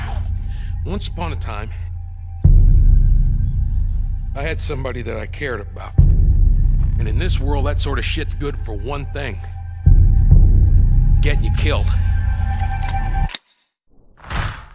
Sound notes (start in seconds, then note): 12.4 gun clicks